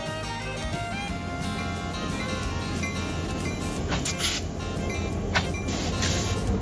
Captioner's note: train chugging; bell dinging